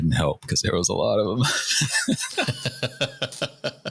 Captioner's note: laughter